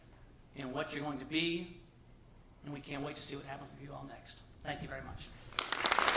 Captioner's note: applause